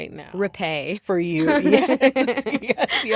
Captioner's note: laughter